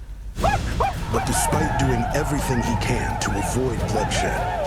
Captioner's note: war cries